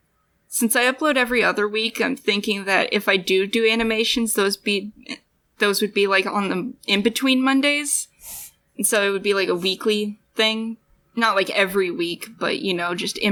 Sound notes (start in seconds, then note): 8.2 shuffling